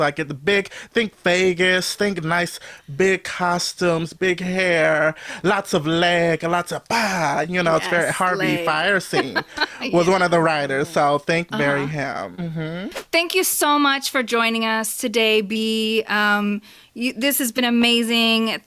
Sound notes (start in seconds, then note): 7.9 laughs; 13.0 whoosh